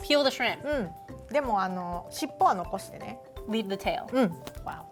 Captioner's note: speaking Japanese